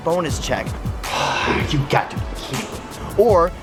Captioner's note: sighs